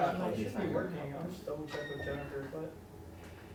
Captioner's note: indistinct chatter